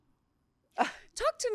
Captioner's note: laughs